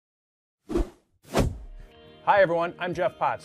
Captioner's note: air whooshing